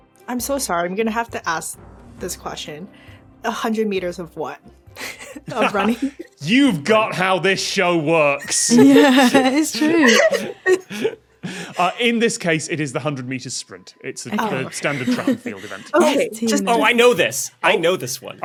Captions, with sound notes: I'm so sorry, I'm going to have to ask this question. 100 metres of what? (blurts laugh) Of running? You've got how this show works! Yeah, it's true! (group laughing) In this case, it is the 100 metre sprint. It's the standard track-and-field event. Oh, I know this! I know this one.